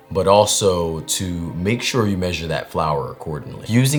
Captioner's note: none